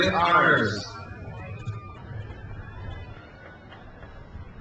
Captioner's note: crowd cheers